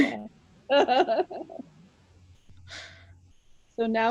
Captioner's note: laughing